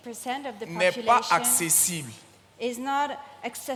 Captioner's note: continues in French